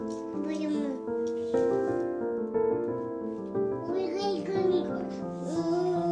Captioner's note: child babbling